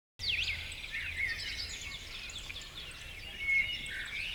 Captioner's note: birds chirping